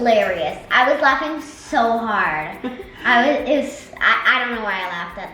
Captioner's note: laughs